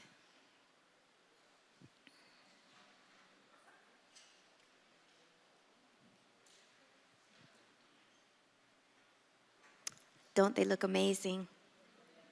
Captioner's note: silence